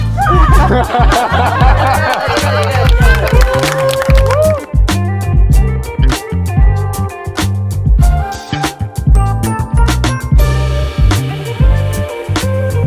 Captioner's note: applause